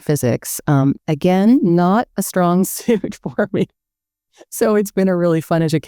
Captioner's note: laughing